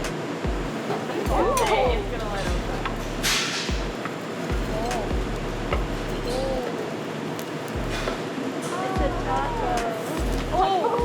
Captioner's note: indistinct chatter